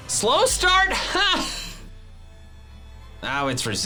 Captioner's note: laughs